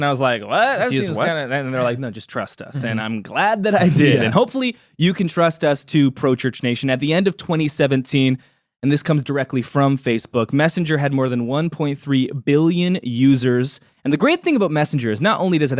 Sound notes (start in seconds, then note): 3.8 chuckles